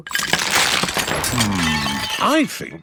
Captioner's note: cracking